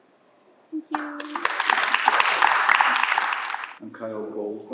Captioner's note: applause